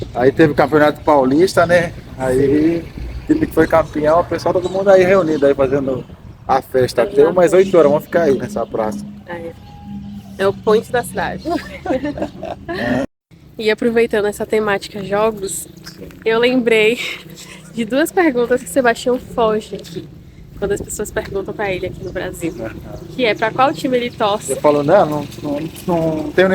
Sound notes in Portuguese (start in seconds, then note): 14.4 risadas